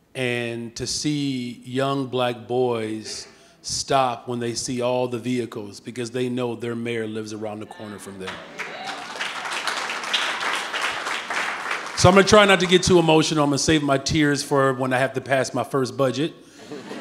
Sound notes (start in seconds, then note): 8.2 audience clapping